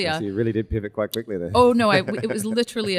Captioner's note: laughs